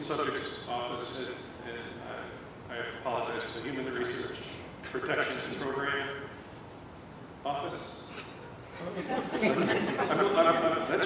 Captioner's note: laughter